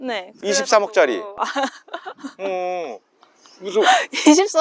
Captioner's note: laughter